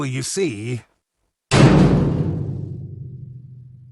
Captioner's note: cell door slamming